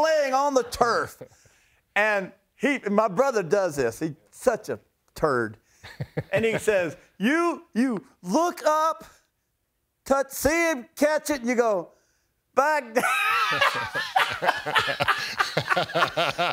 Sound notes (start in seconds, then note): 5.8 laughs